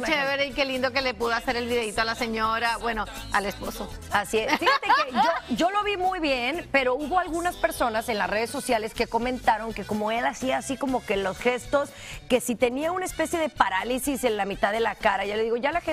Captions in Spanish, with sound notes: NO LA DEJARÍA SOLA MIRA AQUÍ ANDAMOSS JUNTOS. (RISAS) MUY EN SU ROL DE PERSONAJE